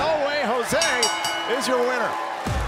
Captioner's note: bell ringing